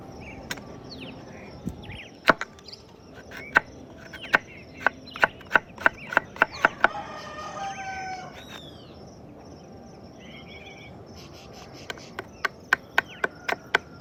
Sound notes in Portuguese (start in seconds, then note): 6.4 Galo cantando